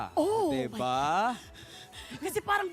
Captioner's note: melai breathing heavily